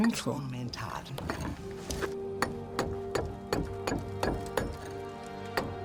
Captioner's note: chisel chinks against stone